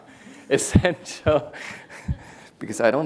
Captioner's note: laughs